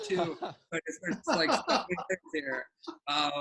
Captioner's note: laughing